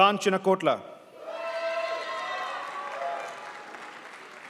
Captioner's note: crowd applauds